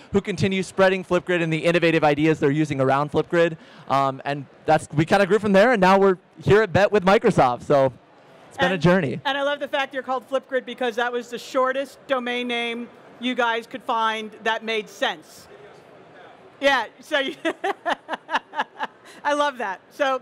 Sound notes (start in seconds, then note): 17.3 laughs